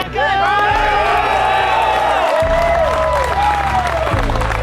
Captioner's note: cheering